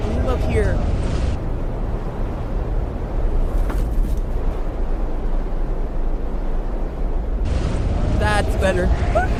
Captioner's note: intense wind sounds